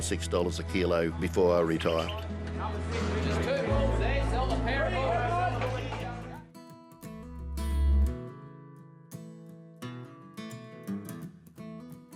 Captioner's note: auction ambience